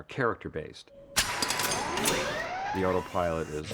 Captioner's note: whirring